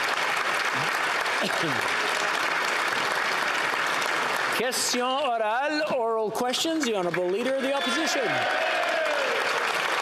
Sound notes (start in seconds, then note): 1.6 applause